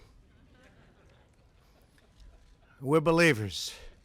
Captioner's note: laughter